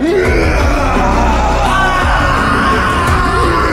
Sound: screaming

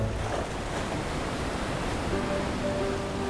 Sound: water gushing; light music

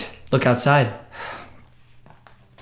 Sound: sighs

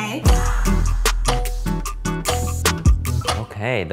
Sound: gentle, upbeat music; timer dinging

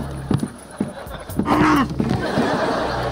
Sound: groaning; laughing

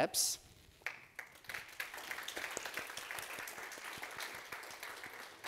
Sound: audience applauding

